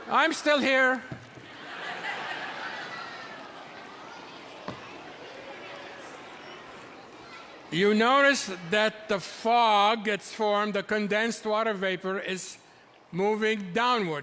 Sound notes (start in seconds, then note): 1.3 audience laughing; 3.8 audience murmuring